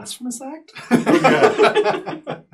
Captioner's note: all laugh